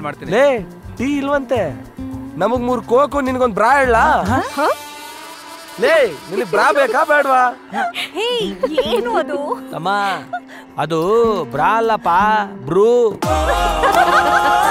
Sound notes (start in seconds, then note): 7.7 laughs